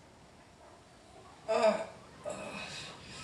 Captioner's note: man winces in pain